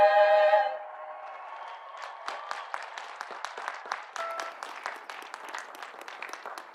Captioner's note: audience cheering; audience applauding